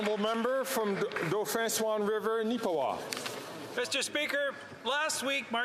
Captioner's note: some Applause